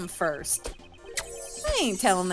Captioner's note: mwah